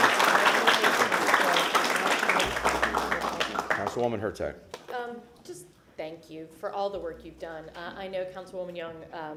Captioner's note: applause